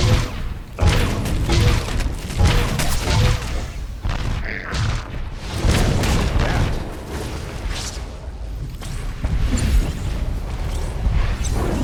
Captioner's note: explosion